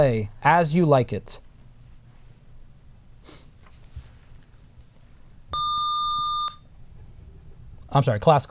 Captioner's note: buzzer